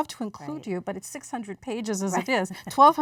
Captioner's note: laughs